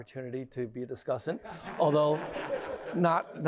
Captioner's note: laughter